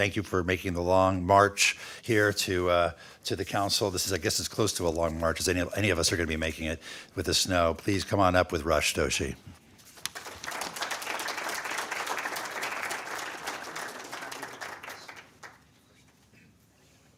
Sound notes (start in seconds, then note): 14.4 applause